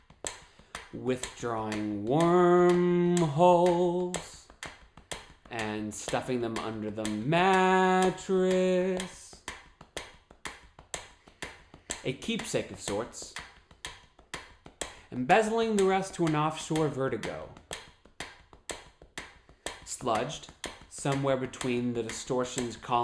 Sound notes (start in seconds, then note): 0.0 tapping and ticking sound; 8.6 tapping and ticking sound; 13.3 tapping and ticking sound; 17.3 tapping and ticking sound